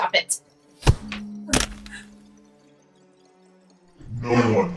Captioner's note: hand thuds